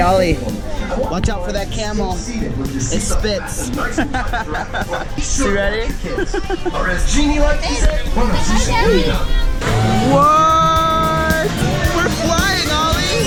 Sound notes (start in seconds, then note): 4.3 laughing